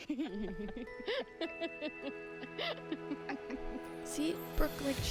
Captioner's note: laughing